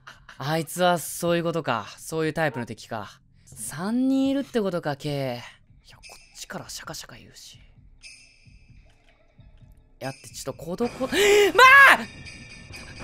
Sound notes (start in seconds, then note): 7.0 the bell's sounds